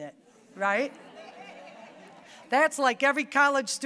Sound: audience laughing

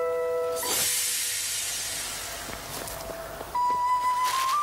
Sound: magical shimmering

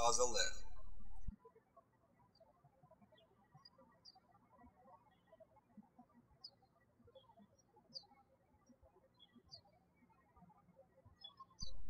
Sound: birds chirping

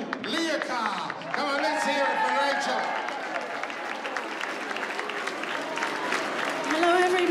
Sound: cheers and applause

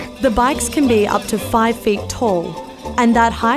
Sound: voiceover

